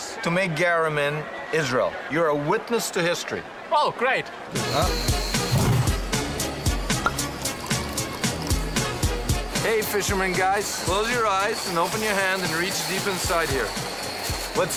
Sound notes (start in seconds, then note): 4.6 bright upbeat music; 7.0 cork pops; 8.0 liquid gluging